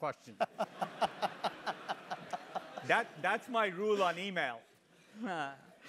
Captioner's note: laugh